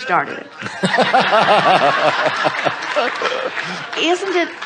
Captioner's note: audience and guest laughs